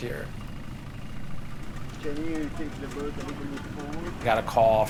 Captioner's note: engine rumbling; indistinct chatter